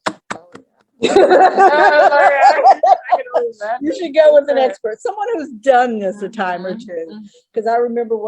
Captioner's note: laughter